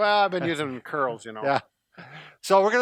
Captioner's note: laughs